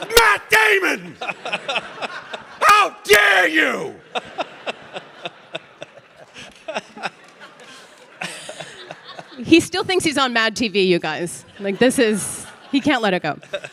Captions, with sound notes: It's Matt Damon. How dare you? (Ron laughing) (audience laughing) - He still thinks he's on "Mad TV," you guys. Like this is, he can't let it go.